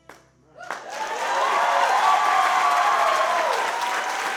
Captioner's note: applause